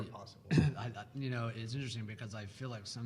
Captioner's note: clears throat